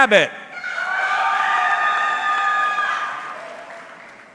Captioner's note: audience cheering